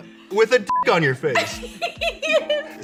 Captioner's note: beep